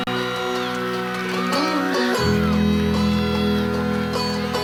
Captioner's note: audience cheering; upbeat instrumental music